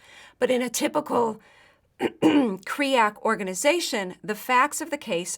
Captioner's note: cough